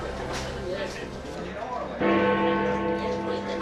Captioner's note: unnessessary Background Babble